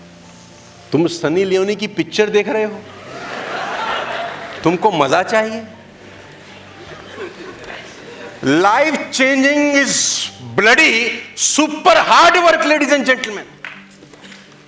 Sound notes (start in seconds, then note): 3.0 laughing